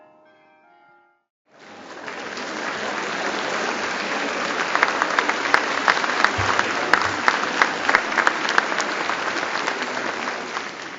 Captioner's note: applause